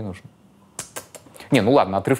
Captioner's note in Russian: щелканье языком